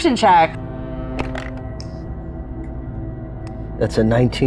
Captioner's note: dice clink